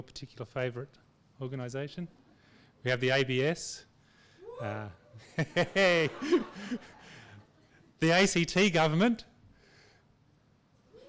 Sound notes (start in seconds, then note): 3.1 audience member cheers; 5.2 laughs